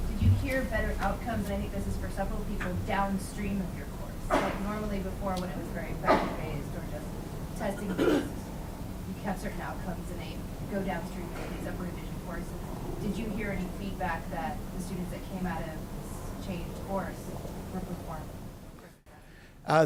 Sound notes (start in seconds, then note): 7.6 students coughing